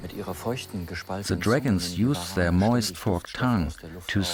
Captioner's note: in German